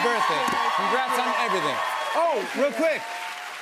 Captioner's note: cheers and applause